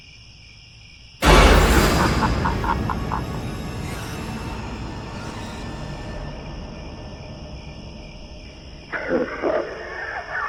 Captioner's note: crickets, jump scare, creepy laugh